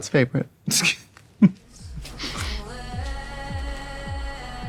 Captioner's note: Katya laughing